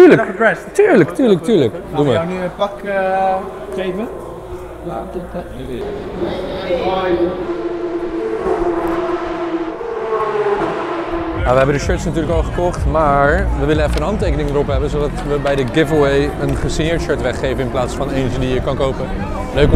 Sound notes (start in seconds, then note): 8.5 car sounds